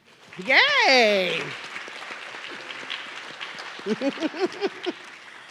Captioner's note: audience clapping